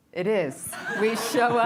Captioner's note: laughter